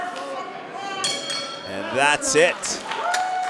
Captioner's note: bell ringing